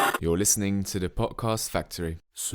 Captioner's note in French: ancien mode radio : grésillements